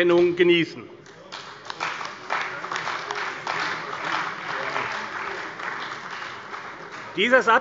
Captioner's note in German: Beifall bei der CDU und dem BÜNDNIS 90/DIE GRÜNEN